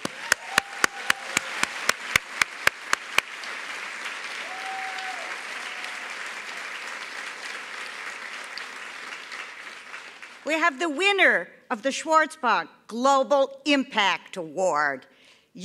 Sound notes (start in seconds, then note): 4.8 applause